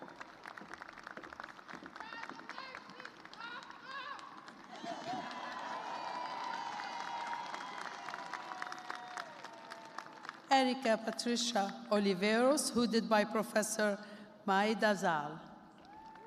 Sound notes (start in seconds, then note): 1.7 cheers and applause